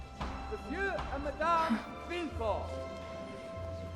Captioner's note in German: Hämmern